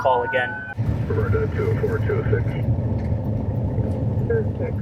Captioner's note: radio chattering